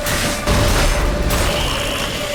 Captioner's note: Quen shield explodes